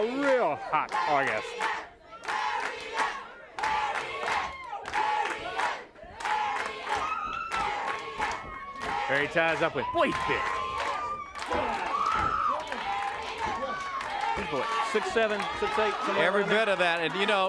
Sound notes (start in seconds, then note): 2.5 crowd chanting; 11.7 crowd chanting and cheering